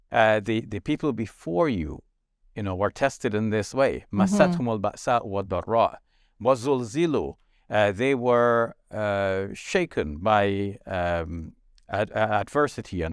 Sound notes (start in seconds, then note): 4.5 speaking Arabic